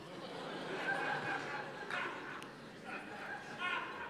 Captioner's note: laughter